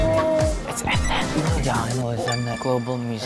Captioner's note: whispering